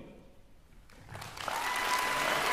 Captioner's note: applause; cheering